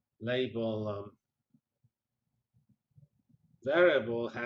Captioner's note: pause